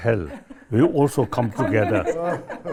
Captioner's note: all laugh